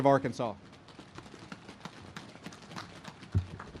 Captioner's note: audience claps